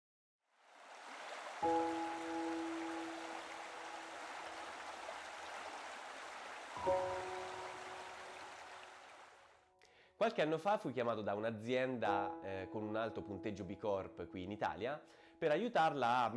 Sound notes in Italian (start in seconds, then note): 9.0 Applauso